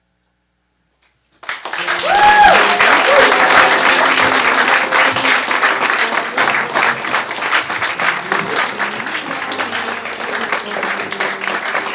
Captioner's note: applause, woos